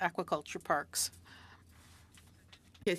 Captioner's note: speaking French